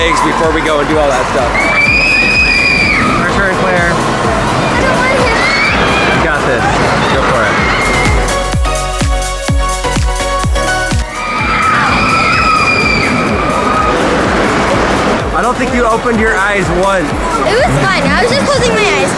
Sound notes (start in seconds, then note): 1.5 screaming; 8.2 upbeat music; 11.1 screaming